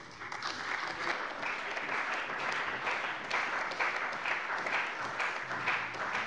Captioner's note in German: Beifall bei der CDU und dem BÜNDNIS 90/DIE GRÜNEN